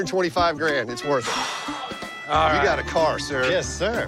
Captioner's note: sighs